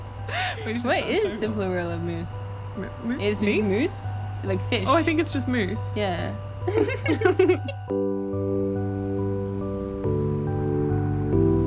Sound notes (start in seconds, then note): 6.6 both laughing; 8.3 soft melodic music